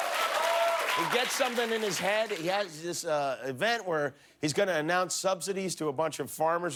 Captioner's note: applause